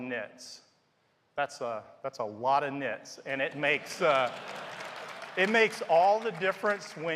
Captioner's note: laughter